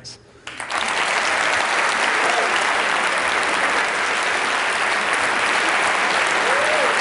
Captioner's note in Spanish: Aplausos